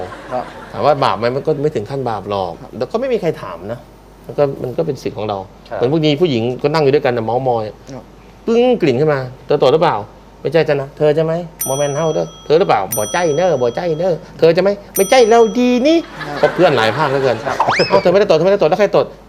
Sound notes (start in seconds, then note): 12.0 northeast accent